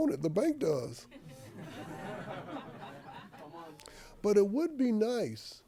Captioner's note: audience laughing